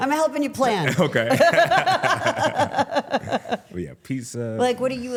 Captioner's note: laughing; laughs